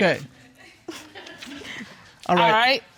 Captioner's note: audience sniggering